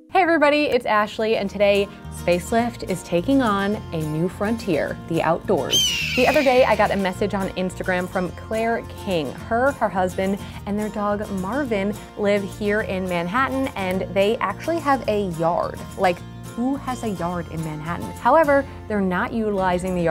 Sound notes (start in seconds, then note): 5.7 eagle calling